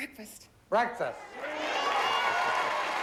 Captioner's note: audience cheering